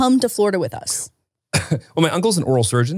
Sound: coughs

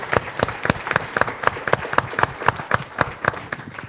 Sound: applause

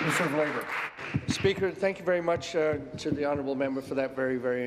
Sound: applause

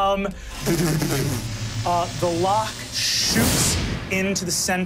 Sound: mimics electricity buzzing

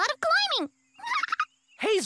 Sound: giggle

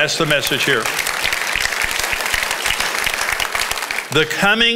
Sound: congregation applauds

